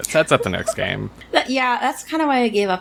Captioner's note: laughs